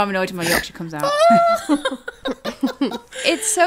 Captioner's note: laughing